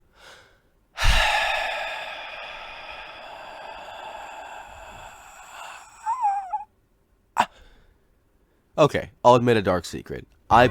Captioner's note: deep sigh